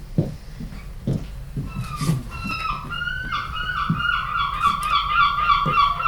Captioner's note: seagulls cawing